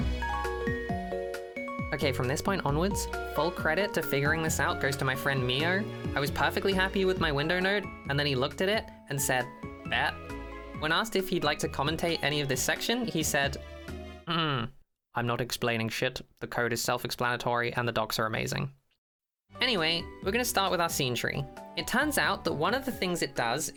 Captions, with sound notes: THE ABSENCE OF PRESENCE IS THE PRESENCE OF ABSENCE Ok, from this point onwards, full credit to figuring this out goes to my friend mio. I was perfectly happy with my Window node and then he looked at it and said “bet” When asked if he’d like to commentate any of this section, he said: (said with a vaguely european accent) “I’m not explaining s***, the code is self-explanatory and the docs are amazing” Anyway, we’re going to start with our SceneTree. It turns out that one of the things it does